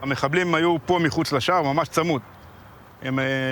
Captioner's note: speaking Hebrew